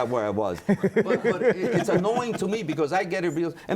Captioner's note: laughter